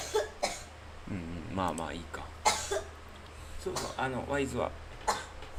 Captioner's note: cough